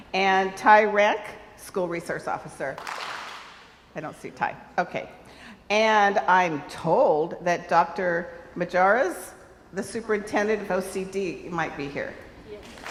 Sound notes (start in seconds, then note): 2.8 crowd applauds; 12.6 crowd applauds